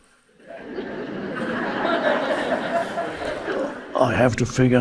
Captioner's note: audience laughing